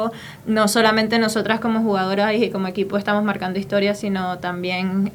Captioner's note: continues in Spanish